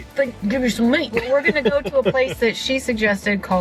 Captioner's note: laughs